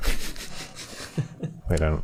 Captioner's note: sniggering